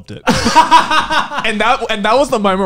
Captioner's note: laughing